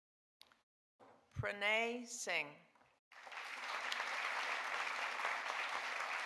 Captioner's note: audience applauding